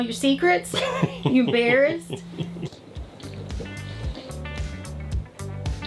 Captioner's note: laughs